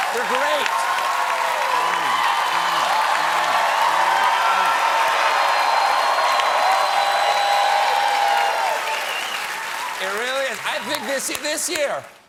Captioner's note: cheers and applause